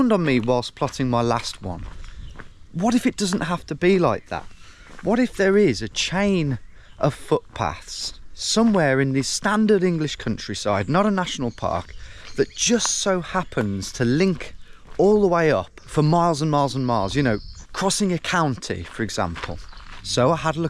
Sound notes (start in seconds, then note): none